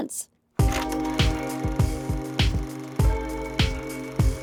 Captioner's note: projector reel clicks